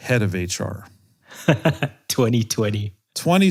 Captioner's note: laugh